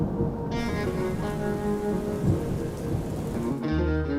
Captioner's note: rain pattering